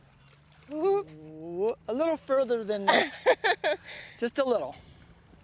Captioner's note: laughter